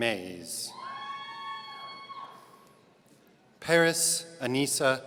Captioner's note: audience cheering